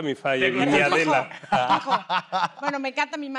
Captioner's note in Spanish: Ríe